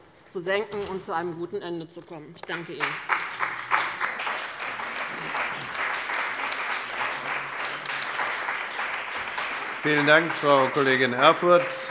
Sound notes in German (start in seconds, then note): 2.5 Beifall bei dem BÜNDNIS 90/DIE GRÜNEN und der CDU